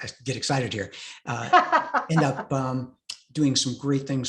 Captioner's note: laughing